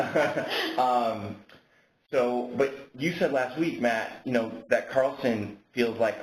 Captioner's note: laughter